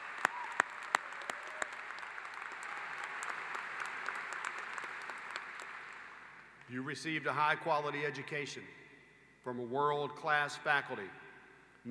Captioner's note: applause